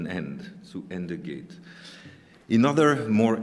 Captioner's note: speaking german